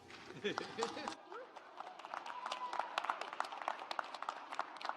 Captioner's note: audience applauds